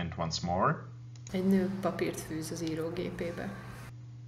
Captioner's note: speaking in Hungarian